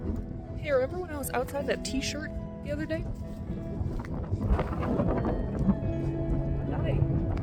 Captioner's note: wind blowing